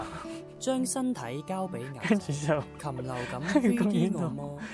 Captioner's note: laughing XD